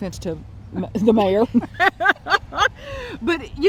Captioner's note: laughs